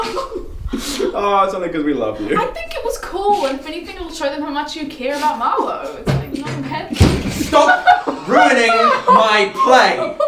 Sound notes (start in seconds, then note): 6.0 door slams